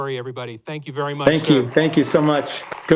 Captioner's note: applause